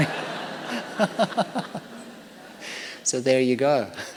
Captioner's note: laughter